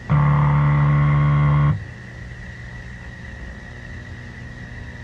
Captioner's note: game buzzing